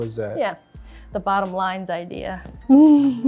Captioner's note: laughs